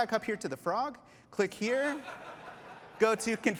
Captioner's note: laughter